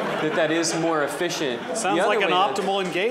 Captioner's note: laughter